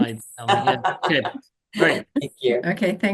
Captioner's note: laughs